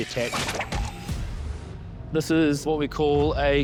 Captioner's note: whipping